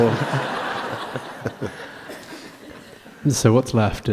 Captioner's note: laughter